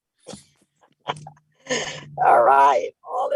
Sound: laughing

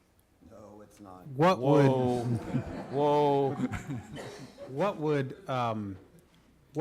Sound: laughing

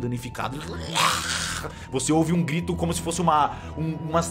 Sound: raaaar

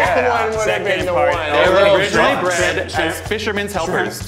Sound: everyone chattering

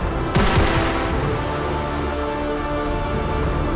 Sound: gun shoots

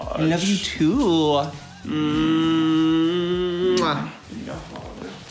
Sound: both make kissing noises

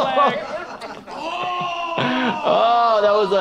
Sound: groaning

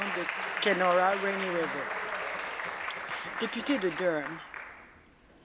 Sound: applause

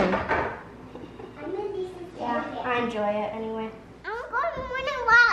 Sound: chatter

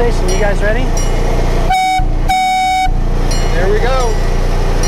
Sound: train horn tooting

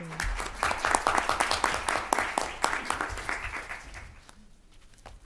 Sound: applause

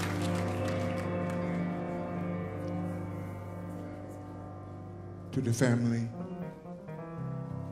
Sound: applause

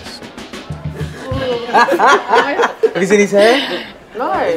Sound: laughing

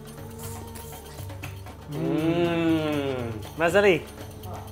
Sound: slurping; speaking foreign language

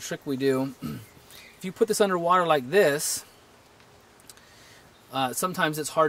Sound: cough

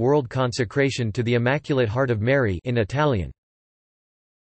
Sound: in Italian

